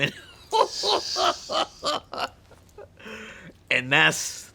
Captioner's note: both laughing